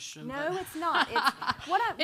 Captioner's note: laughing